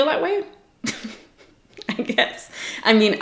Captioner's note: giggles